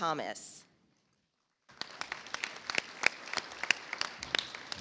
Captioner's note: audience applauds